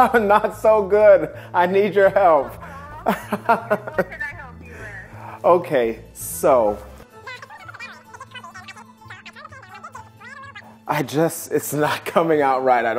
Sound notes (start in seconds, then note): 2.2 laughing; 7.3 fast forwarding speaking